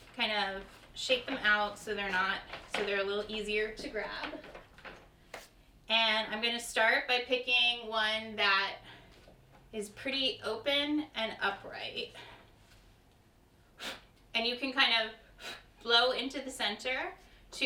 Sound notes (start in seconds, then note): 13.8 blows